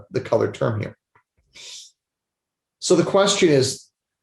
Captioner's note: whooshing sound